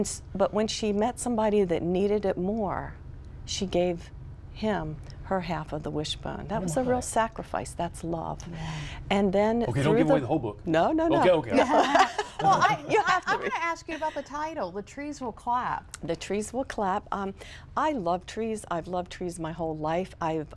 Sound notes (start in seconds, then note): 11.5 laughter